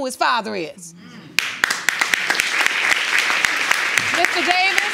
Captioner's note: audience applauding